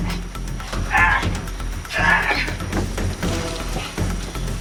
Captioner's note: stun gun crackling; Reginald groaning